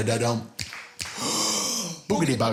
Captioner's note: fingers snapping